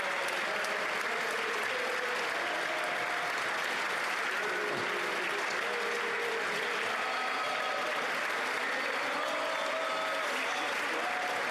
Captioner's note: applause